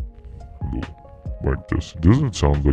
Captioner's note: deep voice